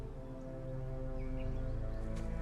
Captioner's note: bird chirp